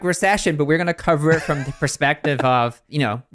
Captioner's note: laughs